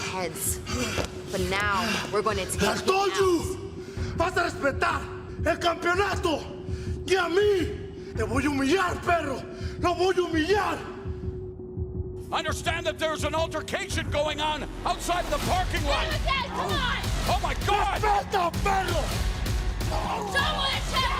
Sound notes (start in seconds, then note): 7.8 speaking in foreign language